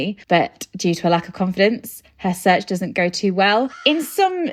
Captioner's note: crow cawing